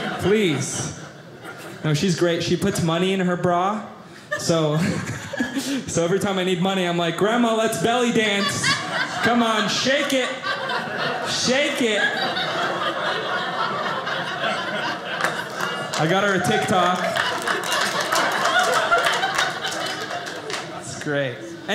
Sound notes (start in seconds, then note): 12.1 audience laughing; 16.9 audience laughing